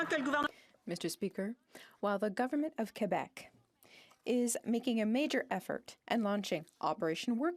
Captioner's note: speaking French